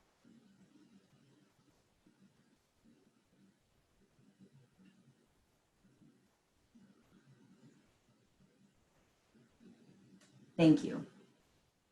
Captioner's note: silence